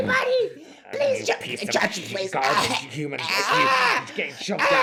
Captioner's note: chokes more